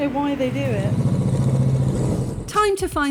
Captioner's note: bike engine